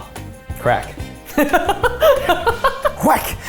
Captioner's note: laughing